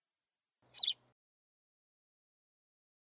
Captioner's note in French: chant d’oiseau